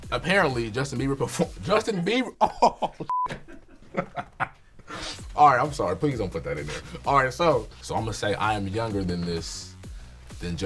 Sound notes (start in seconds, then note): 3.1 beep; 3.2 laughing